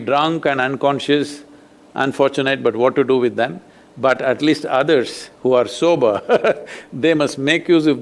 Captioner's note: laughs